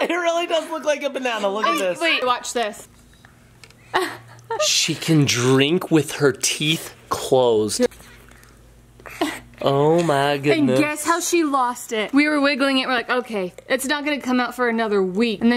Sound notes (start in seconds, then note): 3.9 laughing